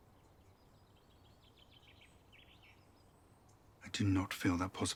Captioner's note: birds chirping